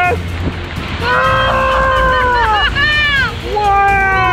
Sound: screaming

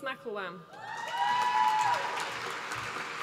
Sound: applause

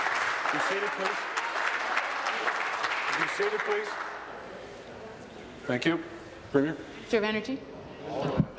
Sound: applause

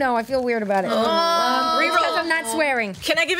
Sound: group moans

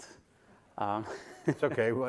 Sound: laughs

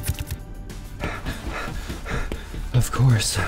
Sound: panting

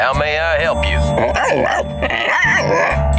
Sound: barking

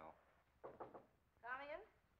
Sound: knocking on door

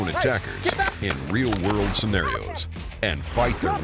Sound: voiceover

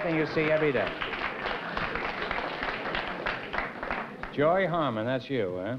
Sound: applause

